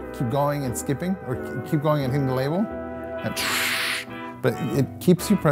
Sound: hissing

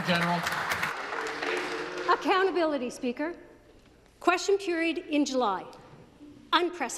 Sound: applause

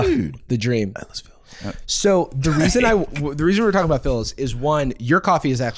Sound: whispering

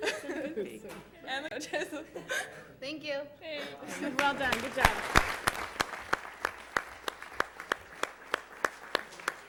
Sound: applause

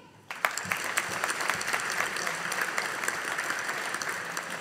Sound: audience applauding

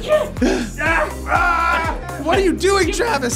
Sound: shouting

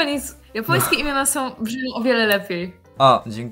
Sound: Polish

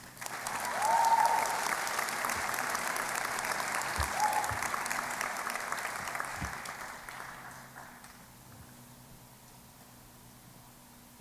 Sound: applause

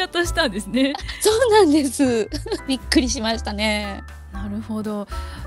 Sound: laughs

